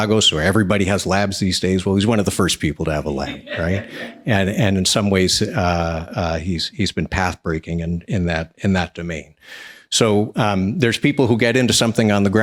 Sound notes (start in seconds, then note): 3.0 laughs